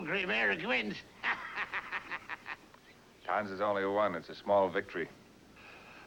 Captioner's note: O'Reilly Laughing